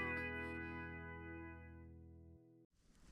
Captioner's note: feet shuffling